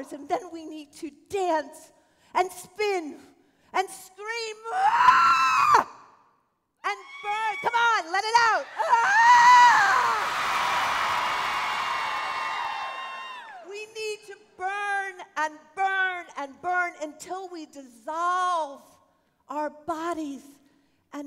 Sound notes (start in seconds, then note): 4.7 screaming